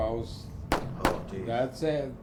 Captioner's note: gunshots